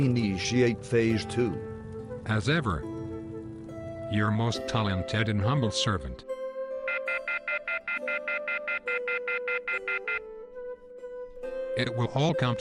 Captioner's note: phone cuts off